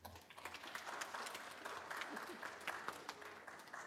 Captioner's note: audience applauds